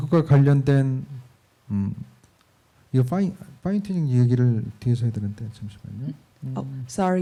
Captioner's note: speaking korean